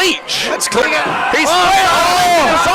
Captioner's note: crowd's cheering